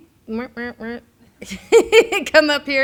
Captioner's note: laughs